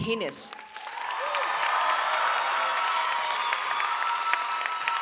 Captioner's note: audience applauds